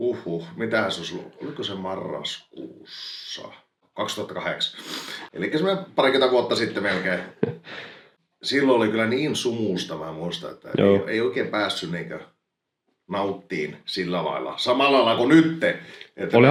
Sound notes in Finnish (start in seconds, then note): 4.7 niiskauttaa; 6.5 naurahtaa